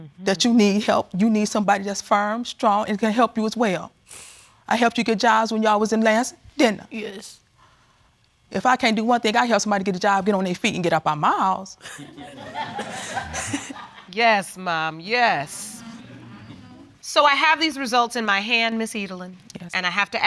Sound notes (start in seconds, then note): 11.9 audience laughs; 13.5 chuckles; 16.3 audience exclaiming